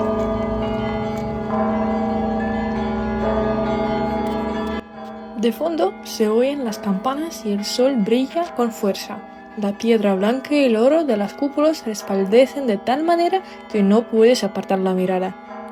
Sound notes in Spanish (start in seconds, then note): 4.2 campana